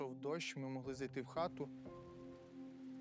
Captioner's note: rain pattering gently